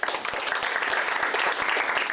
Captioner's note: applause